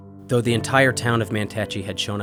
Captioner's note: voiceover